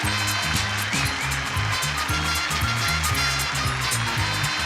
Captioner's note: lively horn music; audience applauds